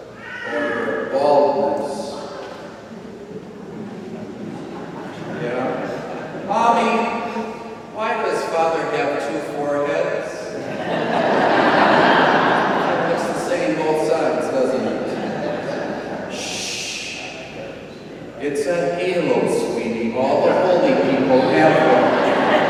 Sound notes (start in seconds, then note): 2.8 congregation chuckles quietly; 10.3 congregation laughs; 22.4 congregation laughs